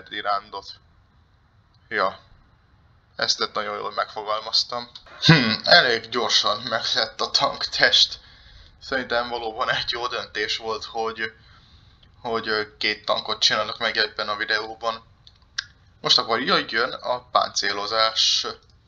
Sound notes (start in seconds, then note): 4.5 sarcasm